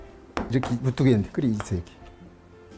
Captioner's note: hammering sound